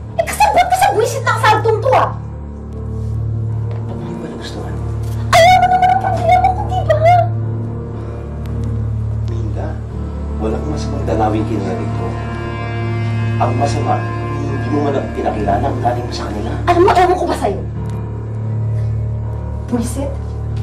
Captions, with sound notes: Well, you're in cahoots with this annoying party, right? Why, didn't you like it? You know what my problem is, don't you? [sighs] Minda, there's nothing wrong with them visiting you here. What's wrong is that you didn't even introduce your mother to them. Whatever. So annoying.